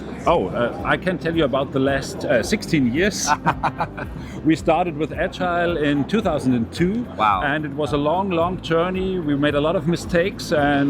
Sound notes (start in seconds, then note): 3.2 laughter